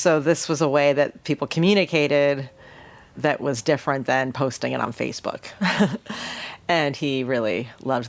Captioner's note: laughs